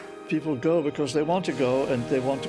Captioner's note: none